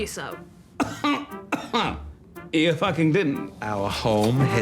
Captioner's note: coughs